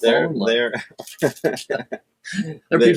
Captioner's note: laughs